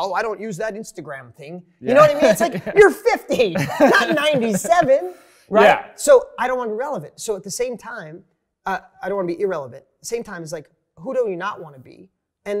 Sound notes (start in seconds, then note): 1.8 laughs